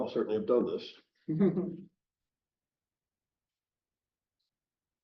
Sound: chuckle

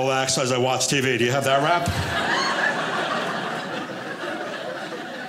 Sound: audience laughing

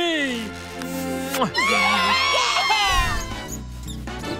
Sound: cheering

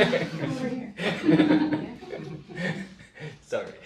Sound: audience laughs; laughs

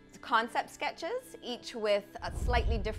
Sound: scene whooshing

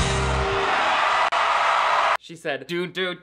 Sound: upbeat music; audience cheers

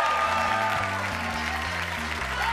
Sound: audience cheers; upbeat music

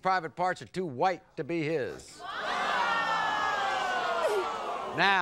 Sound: audience groans

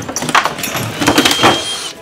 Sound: whirring

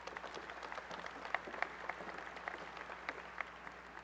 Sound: applause

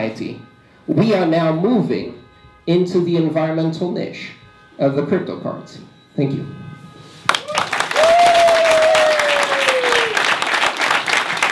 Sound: applause

